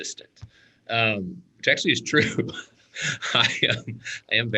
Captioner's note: laughs